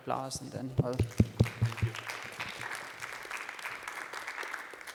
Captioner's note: applause